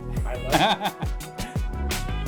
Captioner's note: laughter